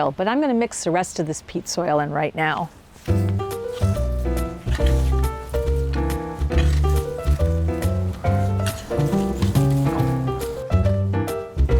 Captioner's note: digging sound and music